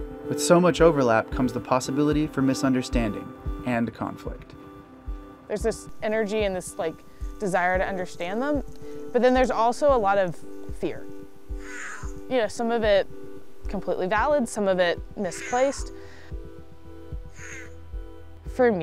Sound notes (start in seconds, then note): 11.6 yowls; 17.3 yowls